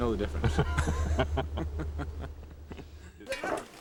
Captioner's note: both chuckle